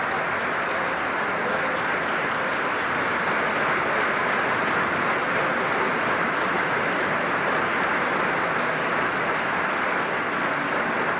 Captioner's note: applause